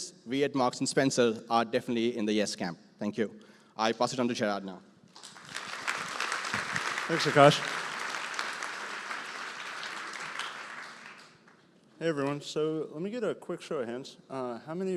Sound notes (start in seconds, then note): 5.1 applause